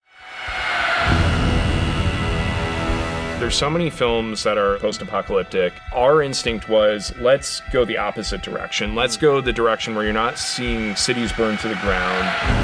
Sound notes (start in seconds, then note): 0.0 shriek; 1.1 tense music